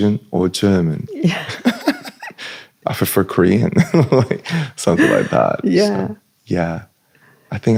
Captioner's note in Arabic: ضحك